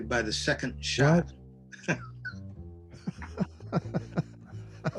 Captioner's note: laughing